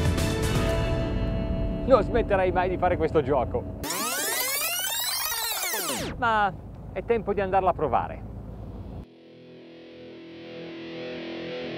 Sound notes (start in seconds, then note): 2.0 speaking in foreign language; 3.8 tape scratches; 8.7 upbeat rock music